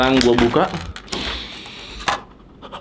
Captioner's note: heavy breathing; sniffing